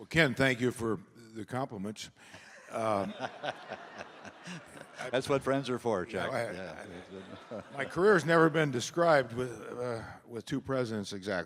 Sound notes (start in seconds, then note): 2.6 laughs; 2.6 audience laughing